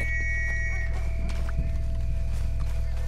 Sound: A police whistle is heard

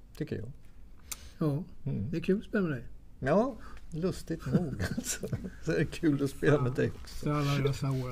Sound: laugh

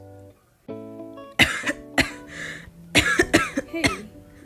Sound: coughing

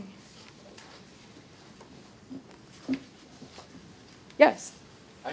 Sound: audience rustling

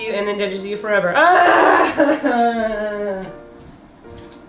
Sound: cries more

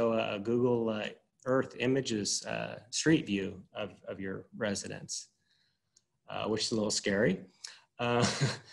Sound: chuckles

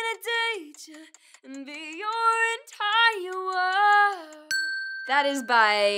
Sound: bell dinging

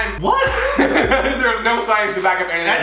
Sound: laughs

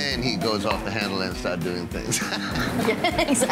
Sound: laughing

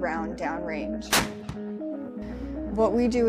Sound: cannon fires

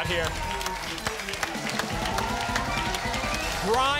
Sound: applause and cheering

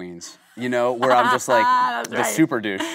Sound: Kate laughing

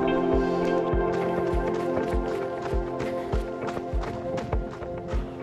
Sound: footsteps crunching

